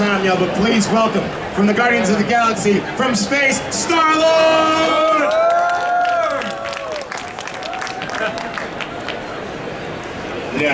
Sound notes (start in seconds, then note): 5.6 audience cheering; 8.8 audience chattering